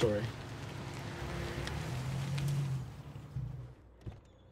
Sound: car approaches

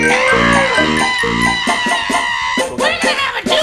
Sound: continues screaming

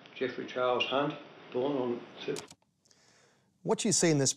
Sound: tape stops

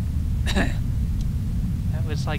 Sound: cough

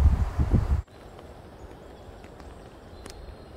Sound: birds singing

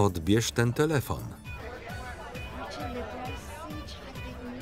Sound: crowd talking

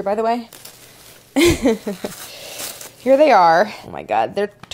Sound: softly chuckles

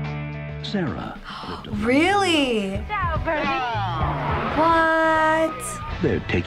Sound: voice-over; gasps; voice-over

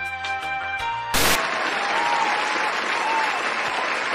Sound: cheering

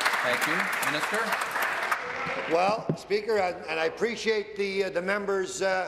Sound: applause

